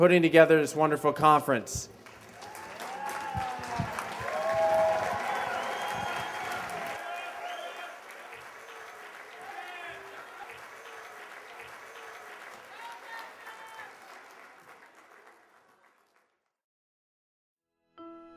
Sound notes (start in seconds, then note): 3.0 cheers and applause